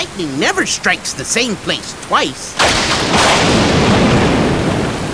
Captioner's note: lightning crashes violently